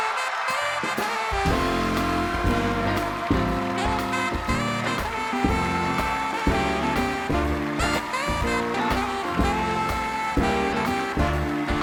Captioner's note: cheers and applause